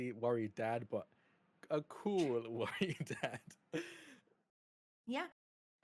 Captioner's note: chuckles